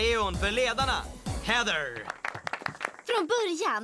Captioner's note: applause